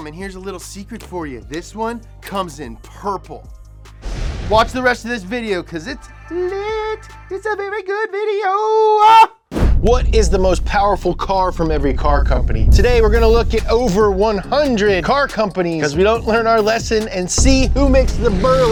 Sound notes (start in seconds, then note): 4.0 loud swoosh; 12.0 gentle upbeat music; 18.5 swoosh sound